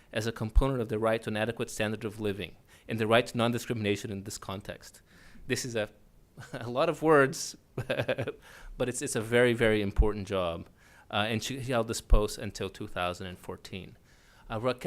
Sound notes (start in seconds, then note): 7.9 laughs